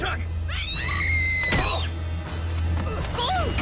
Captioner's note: both scream